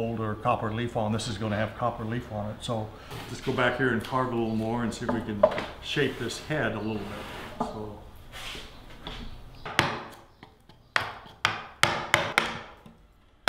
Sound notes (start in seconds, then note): 10.9 hammering